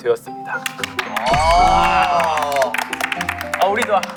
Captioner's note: applaud